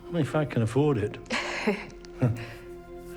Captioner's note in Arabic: كلاهما يضحك